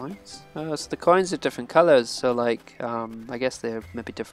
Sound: none

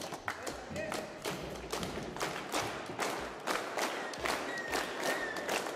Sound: children clapping

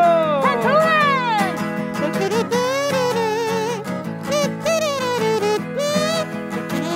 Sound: upbeat guitar music; imitates kazoo

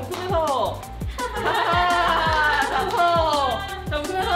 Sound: laughing

